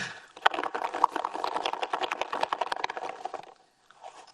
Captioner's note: foil ball rattling